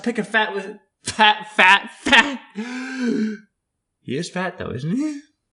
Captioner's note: inhale